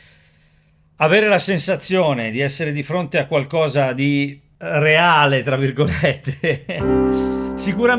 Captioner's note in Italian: risate